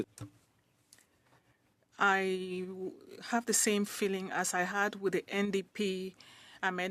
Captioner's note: speaking French